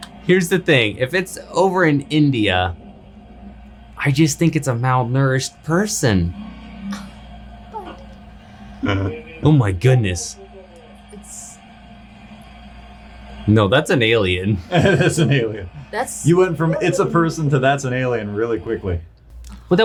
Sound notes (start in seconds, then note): 6.9 gasps; 16.5 laughs